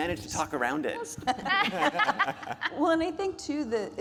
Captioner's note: speakers laughing